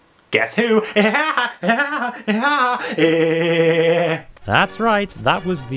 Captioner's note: laughs like Woody Woodpecker